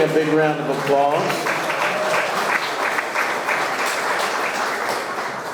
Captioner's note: audience clapping